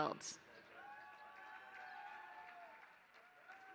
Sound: applause

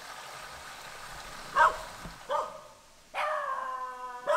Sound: dogs barking/Perros ladrando

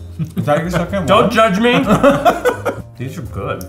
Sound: laughs

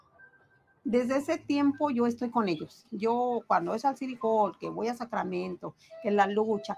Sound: speaking in foreign language

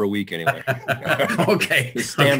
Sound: laughs

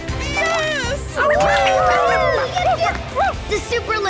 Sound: cheering

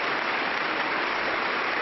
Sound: applause

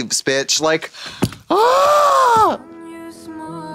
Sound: Trixie wails

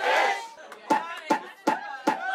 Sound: rhythmic bouncing; rhythmic bouncing continues

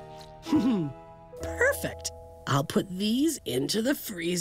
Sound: chuckles

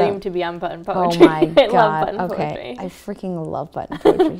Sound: laughs

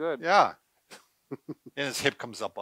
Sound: laughs

